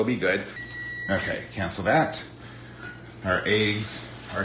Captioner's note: timer beeping